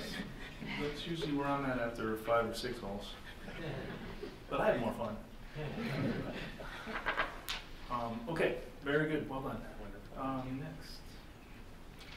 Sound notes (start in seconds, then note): 6.3 chuckles